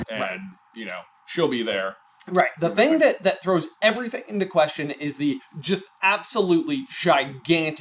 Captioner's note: none